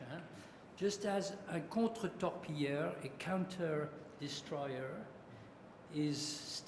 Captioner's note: french